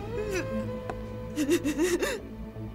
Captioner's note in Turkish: ağlama sesi̇